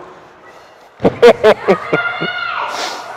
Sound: laughing

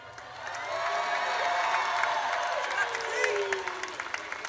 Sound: audience cheers

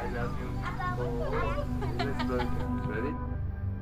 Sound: laughs

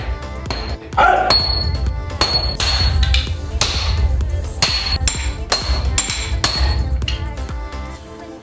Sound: hammers strike & tap the metal

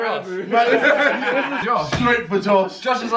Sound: laughing

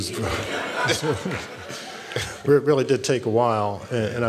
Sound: laughs

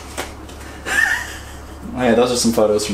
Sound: laughing

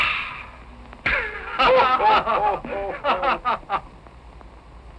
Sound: laughing

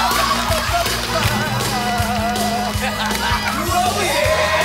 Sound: the crowd is raving!

